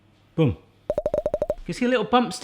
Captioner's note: popping